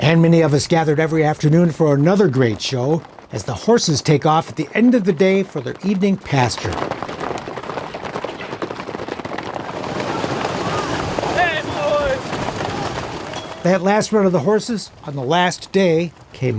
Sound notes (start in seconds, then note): 9.7 water splashing; 9.9 hooves clattering